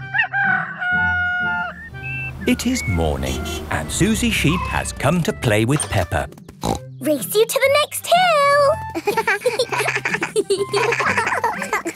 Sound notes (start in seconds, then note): 0.0 rooster crowing; 6.6 snorts; 8.9 both laughing